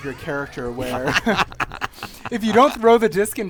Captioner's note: laughter